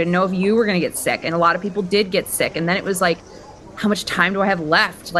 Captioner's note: none